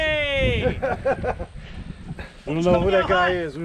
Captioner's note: laughing